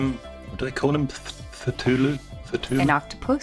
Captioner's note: stutters